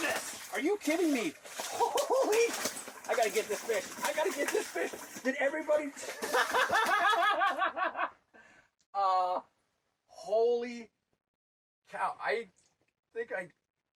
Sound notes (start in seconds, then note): 1.7 laughing; 5.8 fish slapping; 6.0 fisherman laughing